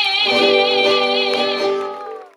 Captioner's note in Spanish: gritos y aplausos